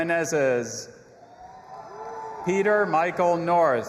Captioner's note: audience applauding and cheering